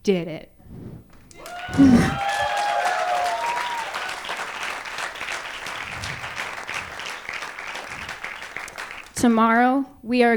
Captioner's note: applause